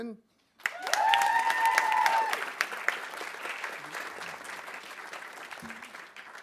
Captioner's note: audience applauding; audience cheering